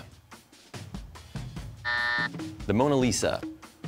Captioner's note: buzzer sounds